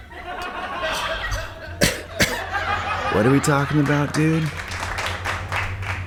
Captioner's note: pipe bubbling continues; exhale and cough